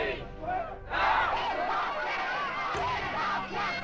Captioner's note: crowd chanting, shouting